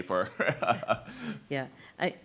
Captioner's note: laughs